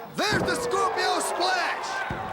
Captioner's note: crowd chatter